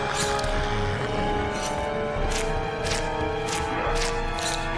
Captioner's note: knife slicing; blood squelching